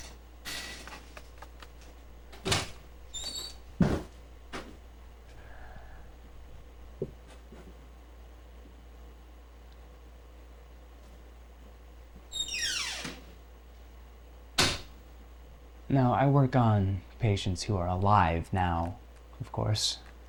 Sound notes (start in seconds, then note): 0.2 door opens; 3.1 door closes; 5.4 sigh; 10.2 door opens; 14.6 door closes